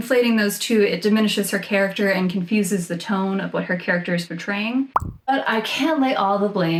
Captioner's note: pop noise